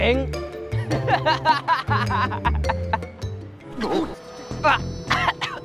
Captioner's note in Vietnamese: Tiếng cười